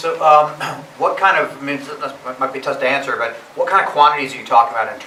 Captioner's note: voiceover